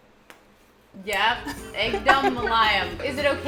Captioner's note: repeating Hindi